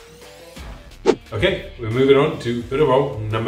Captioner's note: upbeat rock music; whooshing